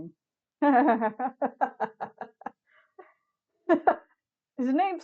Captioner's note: laughter